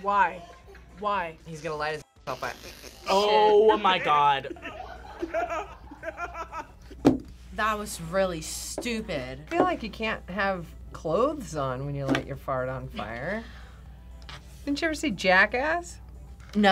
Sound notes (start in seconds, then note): 4.7 men laughing